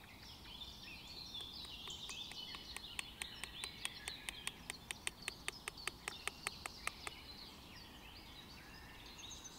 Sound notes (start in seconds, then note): 1.3 the sound of the scissors when we hit the cutting pen; 9.2 bird sounds